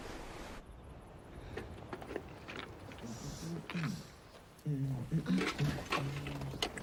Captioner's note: clattering; man humming